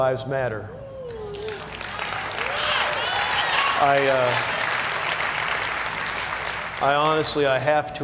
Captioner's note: cheers and applause